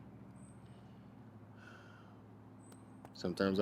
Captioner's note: sighing